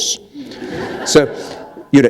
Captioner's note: laughter